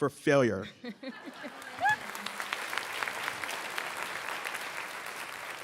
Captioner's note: audience clapping